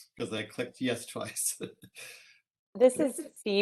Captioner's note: laughs